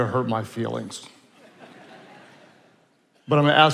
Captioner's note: attendees laughing